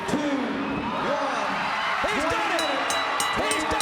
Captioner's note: crowd cheering